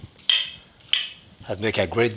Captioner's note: knife stabbing